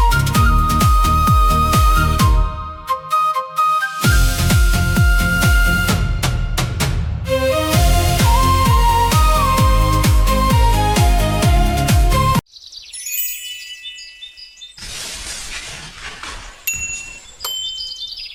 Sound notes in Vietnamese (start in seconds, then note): 13.0 chuông